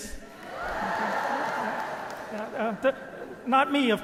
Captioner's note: audience applauding